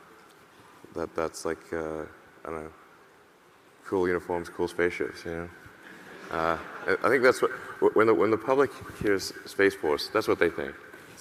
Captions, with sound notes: That's like, I dunno, cool uniforms, cool spaceships, you know? (audience laughing) I think when the public hears "Space Force" that's what they think.